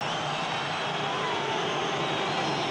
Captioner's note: crowd Cheers - Whistle Blows